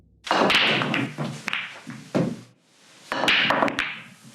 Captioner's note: balls cracking